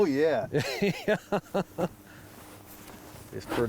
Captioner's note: laughing